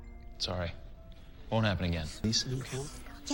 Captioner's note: indistinct chatter in background